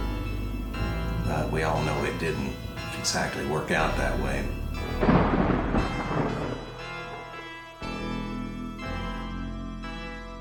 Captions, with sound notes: We all know it didn't exactly work out that way. (thunder rumbling) (dramatic music)